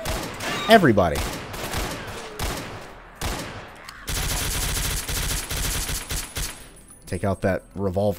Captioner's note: Colt firing, everyone alerted; gunfight commences